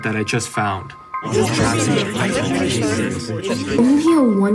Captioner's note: people chattering